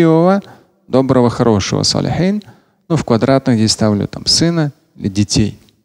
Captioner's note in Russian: говорит на арабском